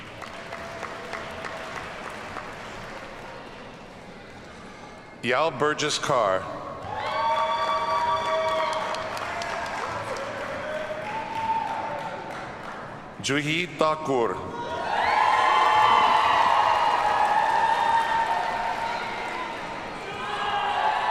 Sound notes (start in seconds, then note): 0.0 audience applauds; 6.8 audience cheers and applauds; 14.6 audience cheers and applauds